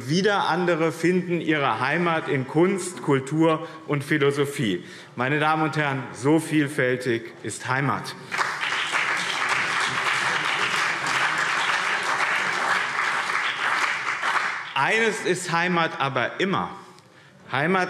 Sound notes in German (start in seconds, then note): 8.2 Beifall BÜNDNIS 90/DIE GRÜNEN und CDU